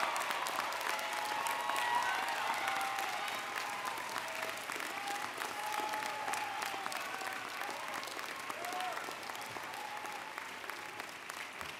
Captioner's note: cheers and Applause